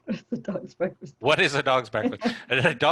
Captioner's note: chuckles